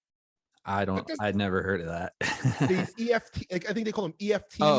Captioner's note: laughs